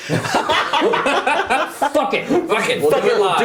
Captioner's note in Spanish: risas